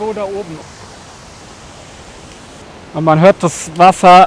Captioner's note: roaring water can be heard